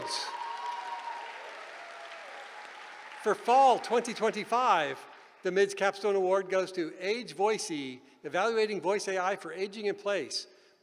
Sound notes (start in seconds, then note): 0.0 cheering